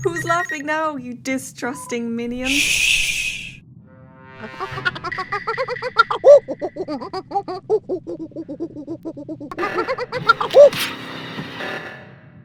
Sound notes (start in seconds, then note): 5.0 monkey sounds